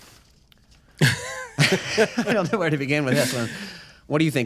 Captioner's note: chuckles